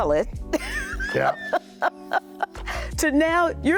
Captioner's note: laughing